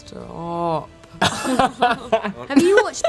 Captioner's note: laughs